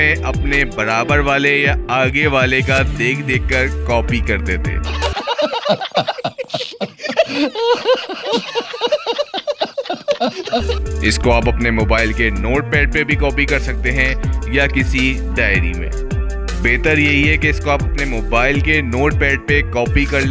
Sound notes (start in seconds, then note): 8.5 laughing